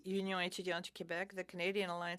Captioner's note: speaking in French